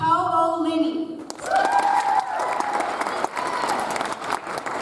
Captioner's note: audience applauds